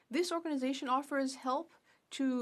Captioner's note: speaking French